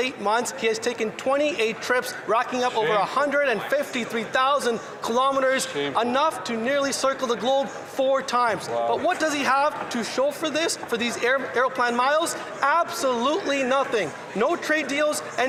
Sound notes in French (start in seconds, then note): 6.5 voix de l'interprète